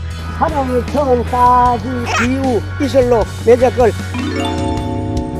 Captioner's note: mumbling Chinese character